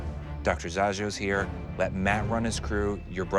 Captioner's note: none